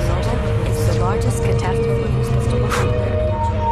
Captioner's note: News reports: in many languages about Chernobyl